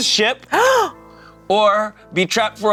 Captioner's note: gasps